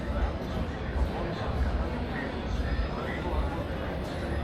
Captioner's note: people chattering